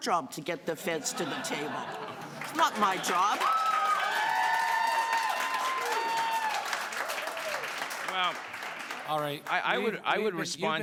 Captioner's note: cheers and applause